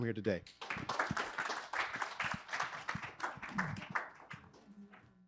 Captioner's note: audience applauding